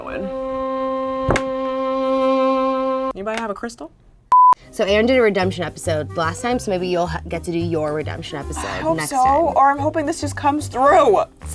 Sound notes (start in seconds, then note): 0.2 meditation music; 4.3 beep